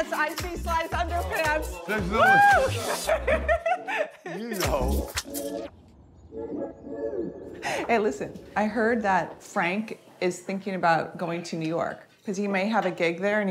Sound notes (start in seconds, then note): 2.2 laughing